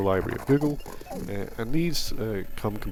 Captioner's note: digital Sounds